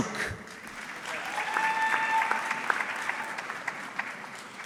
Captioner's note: audience clapping